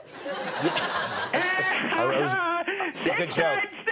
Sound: laughs

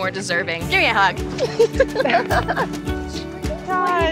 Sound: laughing

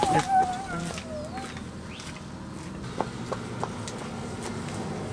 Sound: birds chirping

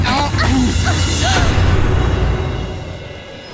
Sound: boom

